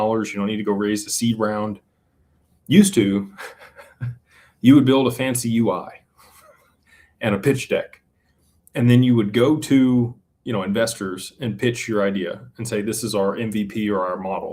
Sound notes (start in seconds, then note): 3.3 laughter